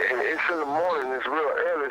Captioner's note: on phone